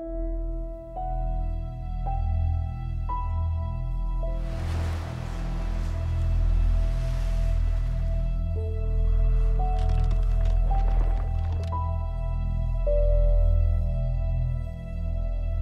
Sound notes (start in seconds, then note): 9.0 ice cracking